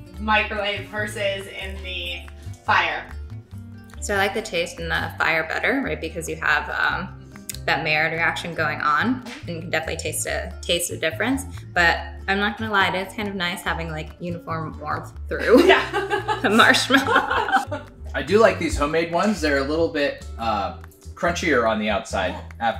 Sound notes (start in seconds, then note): 15.4 laughs